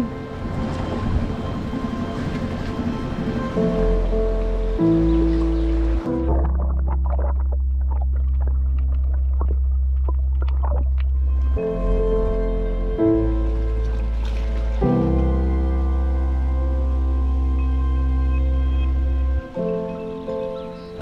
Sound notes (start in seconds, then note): 0.2 upbeat music; 6.3 water gurgling; 11.6 upbeat music